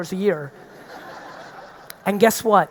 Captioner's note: audience laughing